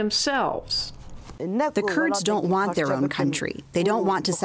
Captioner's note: through translator